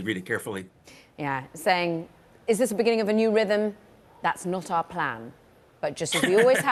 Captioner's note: laughter